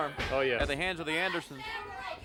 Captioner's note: crowd chatter